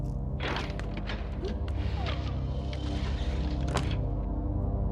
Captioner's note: door closing; Kellogg whirring; ominous tone rising